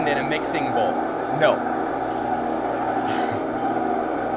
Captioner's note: laughs